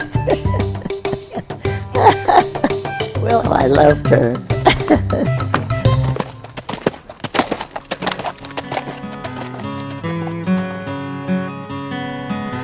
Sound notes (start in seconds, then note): 0.0 she laughs; 6.5 sound of hoofbeats